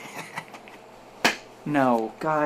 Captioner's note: laughing